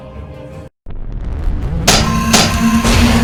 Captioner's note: tentacle beast rumbling; scorpion beast clanking